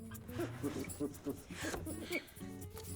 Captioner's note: gasps